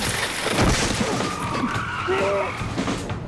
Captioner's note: tires screech